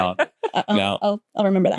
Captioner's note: laughs